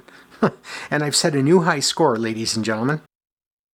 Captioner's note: chuckles